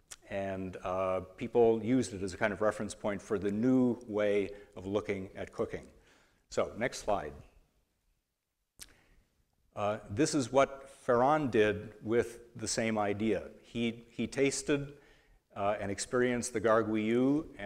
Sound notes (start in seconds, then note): none